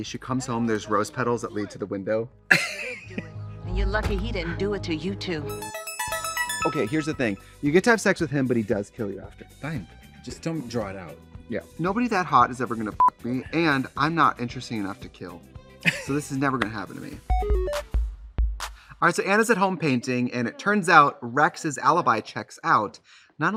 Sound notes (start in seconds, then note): 2.5 Katya laughs; 5.2 bright electronic music; 13.1 beep; 15.8 Katya laughs; 17.2 bright, chirpy music